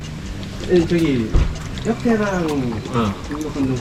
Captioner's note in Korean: 마시는 소리